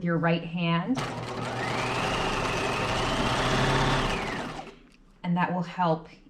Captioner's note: sewing machine whirring